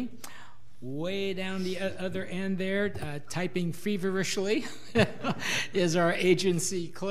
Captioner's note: laughs